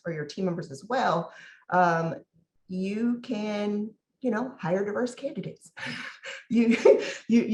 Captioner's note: laughs